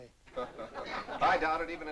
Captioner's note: laughter